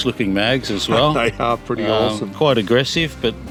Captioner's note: laughs